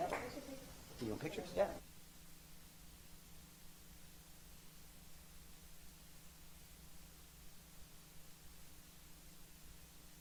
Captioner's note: applause